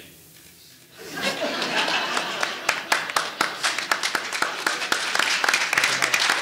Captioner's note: audience laughing and applauding